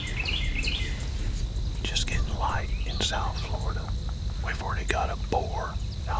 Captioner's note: whispering